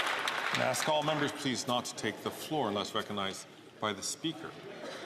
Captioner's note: some Applause